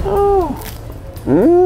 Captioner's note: Crunch; crack